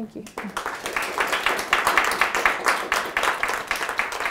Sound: audience applauds

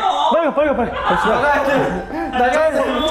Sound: devilish laughter

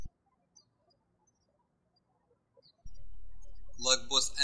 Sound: birds chirping

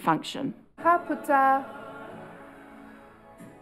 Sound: all exhale

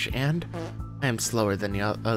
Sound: fart

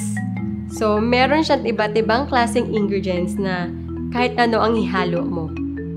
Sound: speaking in foreign language

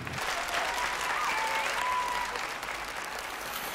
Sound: audience applauds

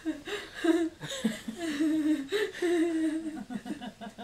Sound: laughing

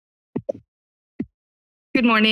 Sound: microphone tapping

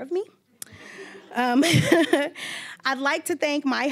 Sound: all laughing

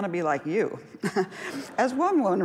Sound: laughs

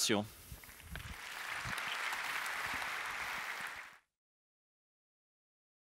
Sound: applause

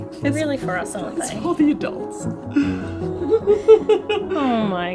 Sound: laughs

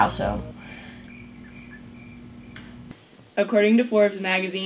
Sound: crickets chirping

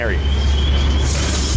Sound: whistling and roaring of fire

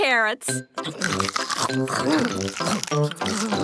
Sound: crunch

